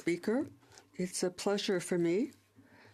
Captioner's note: speaking French